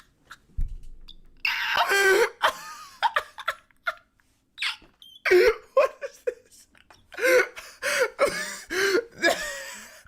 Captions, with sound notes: [Laughter] what is this